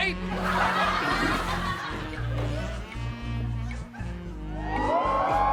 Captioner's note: audience laughs